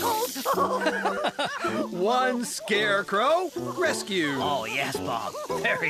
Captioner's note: chuckling